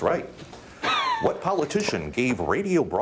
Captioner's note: laughing